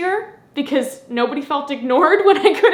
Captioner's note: laughs